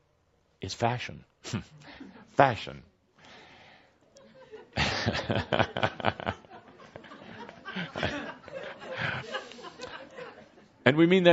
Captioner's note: laughter and chuckling